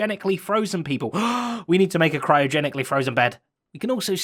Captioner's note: gasp